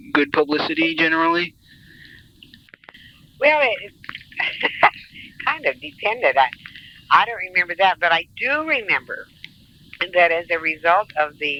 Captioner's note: laughs